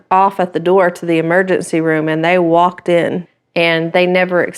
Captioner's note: none